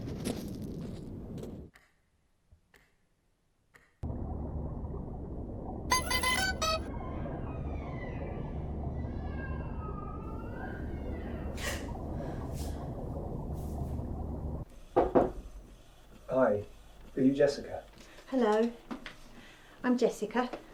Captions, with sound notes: (clock ticking) (bell chimes) (baby crying) (Phil knocks) - Hi, are you Jessica? - Hello, I'm Jessica.